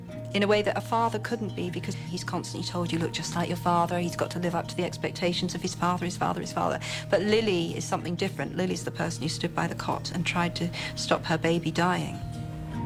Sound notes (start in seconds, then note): none